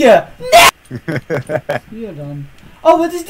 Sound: laughing

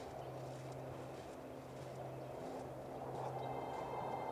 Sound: wind whistling; birds chittering; somber music

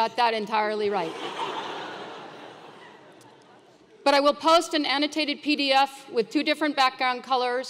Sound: laugh

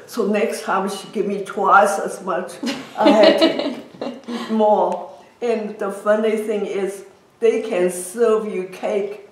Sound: laughs

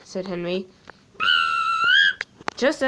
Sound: whistle blows

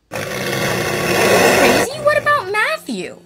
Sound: growling

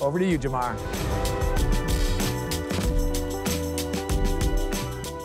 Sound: transition whooshing

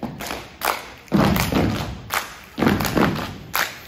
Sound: rhythmic stomping

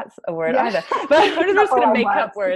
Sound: laughs

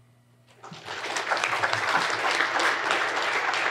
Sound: applauding

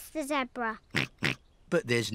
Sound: snorts

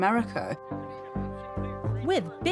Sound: crowd chattering

